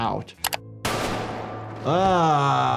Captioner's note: gun firing